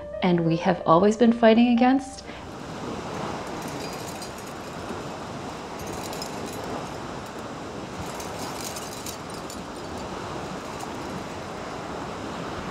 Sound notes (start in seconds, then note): 5.3 sound of waves and jingle dress